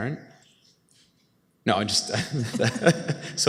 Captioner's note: laughs